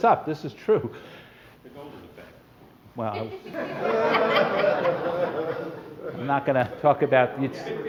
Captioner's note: laughter